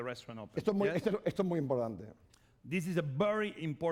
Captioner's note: speaking spanish